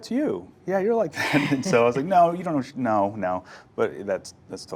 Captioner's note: laughs